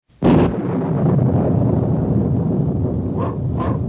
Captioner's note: thunder